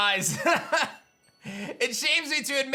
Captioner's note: laughs